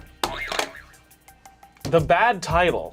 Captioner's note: buzzer springs